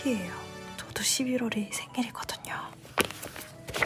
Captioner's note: whispering